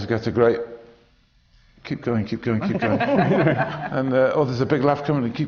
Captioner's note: laughter